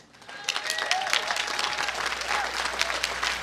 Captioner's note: applause